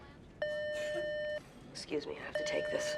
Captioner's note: telephone beeping